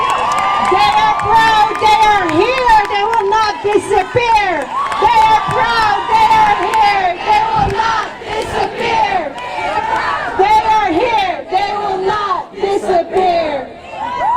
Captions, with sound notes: They are proud, they are here, they will not disappear! They are proud, they are here, they will not disappear! [crowd chanting along] They are proud, they are here, they will not disappear!